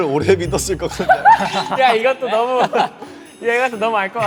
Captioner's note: nothing but laughs at the absurd question